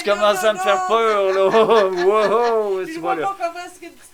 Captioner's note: laugh